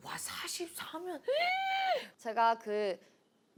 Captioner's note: gasp